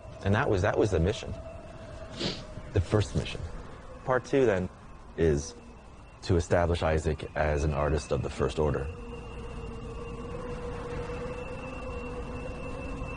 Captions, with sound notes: And that was the mission. The First Mission. Part Two then is to establish Isaac as an artist of the first order. (canyon wind blowing)